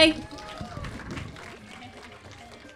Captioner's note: clapping